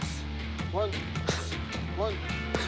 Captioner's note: exhales sharply